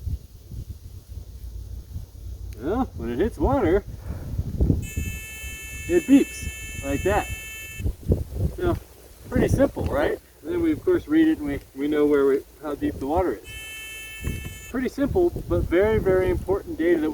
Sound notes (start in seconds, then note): 4.8 loud beeping